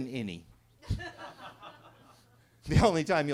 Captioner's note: attendees laughing